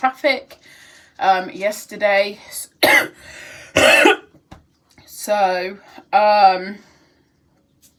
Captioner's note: coughs